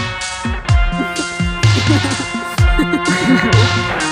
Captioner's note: laughter